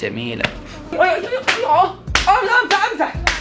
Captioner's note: slapping and screaming